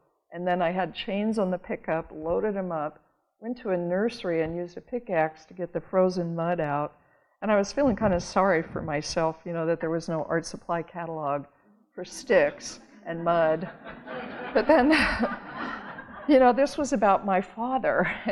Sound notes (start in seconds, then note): 13.4 audience laughing